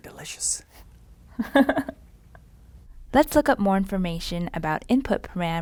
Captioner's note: laugh